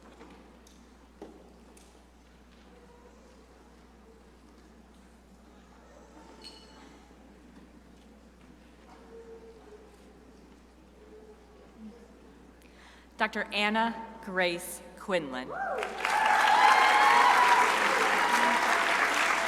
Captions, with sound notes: Dr. Anna Grace Quinlan (crowd applauding)